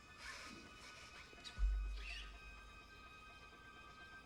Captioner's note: whispering